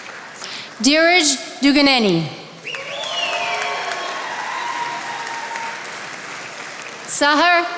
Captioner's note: attendees applauding